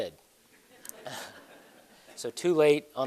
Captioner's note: laughter